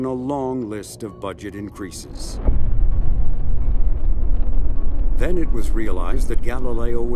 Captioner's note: none